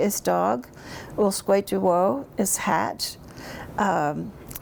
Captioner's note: speaks in Cherokee